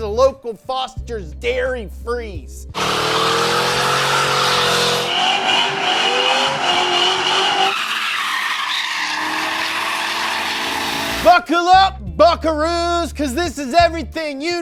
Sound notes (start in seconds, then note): 2.7 car engine revving; 7.7 tires squealing